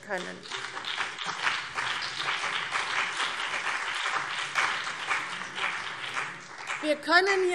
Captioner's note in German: Beifall CDU und BÜNDNIS 90/DIE GRÜNEN